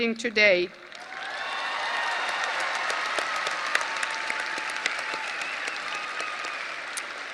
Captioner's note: audience applause and cheering